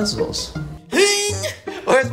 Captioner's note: sexy noises